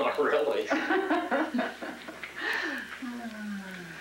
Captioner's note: laughs